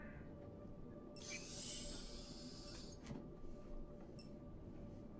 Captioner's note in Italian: suoni intermittenti